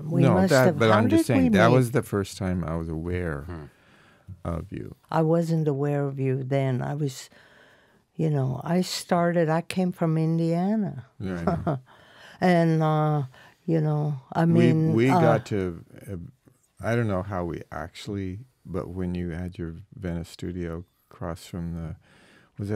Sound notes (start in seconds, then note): 11.2 laughing